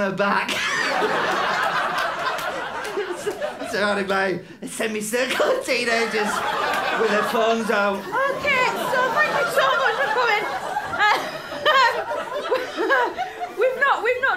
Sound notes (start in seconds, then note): 0.5 laughter; 2.6 wheezing; 8.0 shrieking laughter; 10.9 laughter continues